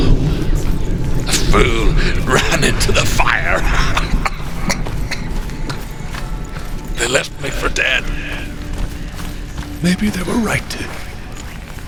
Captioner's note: coughs